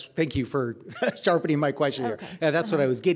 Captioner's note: laughing